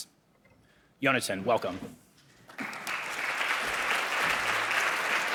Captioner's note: audience applauding